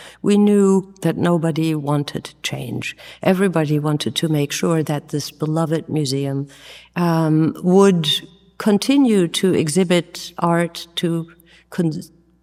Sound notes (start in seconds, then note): none